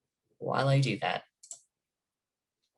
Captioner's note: click